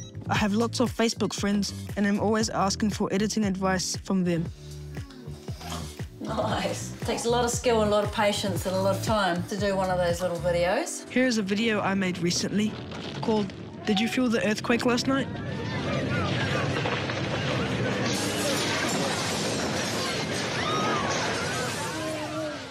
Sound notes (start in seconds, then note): 15.2 loud rumbling; 20.0 screaming